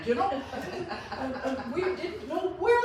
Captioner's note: laughs